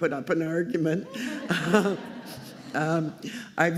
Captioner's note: laughter